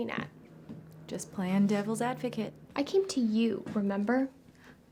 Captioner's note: none